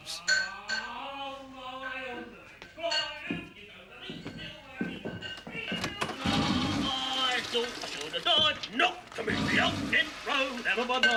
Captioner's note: plumbing noises and singing